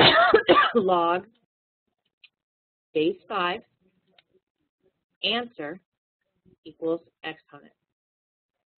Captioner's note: coughing